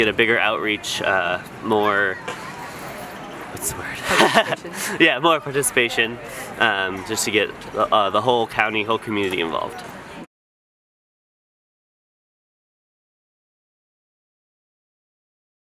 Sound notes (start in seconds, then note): 3.9 laugh